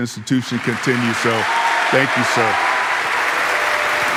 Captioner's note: audience applauding